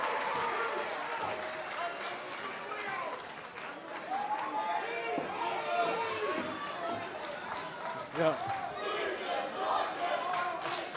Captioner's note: cheers & applause; fans chanting